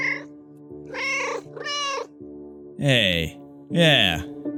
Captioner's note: meow, meow